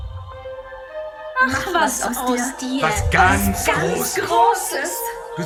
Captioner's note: mixed voices - creepy sound